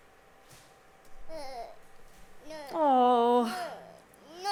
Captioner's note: the sound of a small child, upset